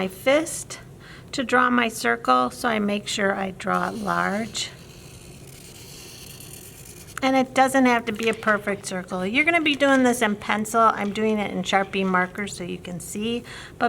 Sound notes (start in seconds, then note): 3.6 marker scratching